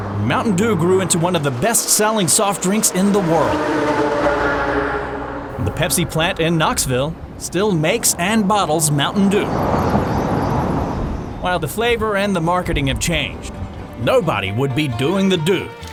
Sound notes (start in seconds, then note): 0.0 car drives; 3.5 traffic noise; 9.6 car drives